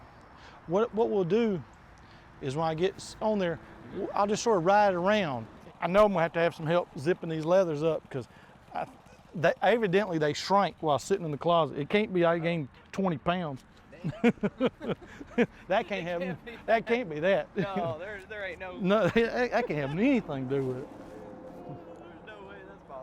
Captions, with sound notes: So what we'll do is when I get on there, I'll just sort of ride it around. I know I'm going to have to have some help zipping these leathers up 'cause evidently, they shrink while sitting in the closet. It can't be I gained 20 pounds. [laughs] That can't happen, that can't be that. - No, there ain't no way. - That can have anything to do with it. [laughs]